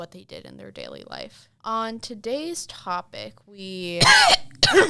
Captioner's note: cough